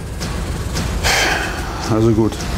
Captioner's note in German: Stöhnen